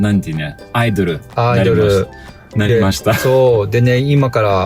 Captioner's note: laughs